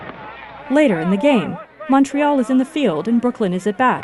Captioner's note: player and crowd noise